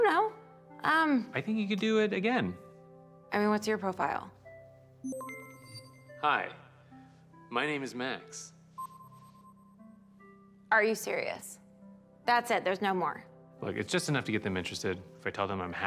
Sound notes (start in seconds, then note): 5.0 system beeps; 8.8 system beeps